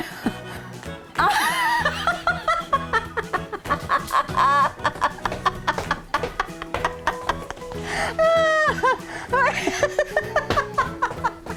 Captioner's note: laughing